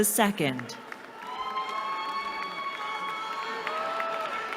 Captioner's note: cheering